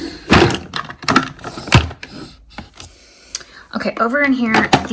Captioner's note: items thudding